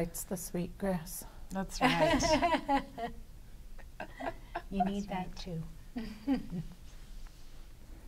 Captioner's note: laughter